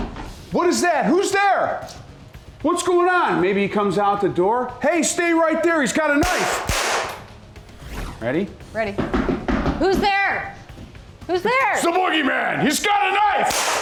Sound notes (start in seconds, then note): 6.2 gun firing